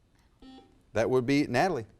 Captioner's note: buzzer buzzes